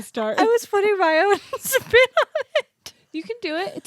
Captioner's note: laughs